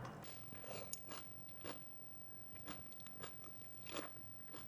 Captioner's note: sprouts crunching